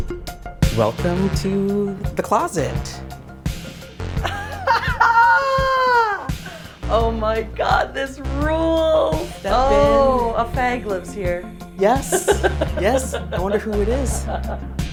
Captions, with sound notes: - Welcome to the closet. (laughs) - Oh, my God, this rules! - Step in. - Oh, a fag lives here. - Yes. Yes, I wonder who it is?